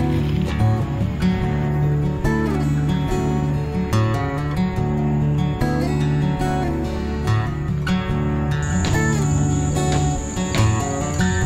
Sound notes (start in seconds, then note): 8.6 car rumbles